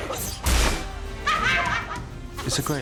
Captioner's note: laughs